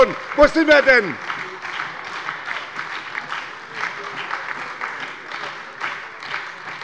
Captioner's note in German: Lebhafter Beifall bei der SPD und der LINKEN - Zurufe von der CDU